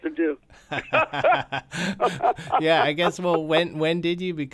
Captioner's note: laughter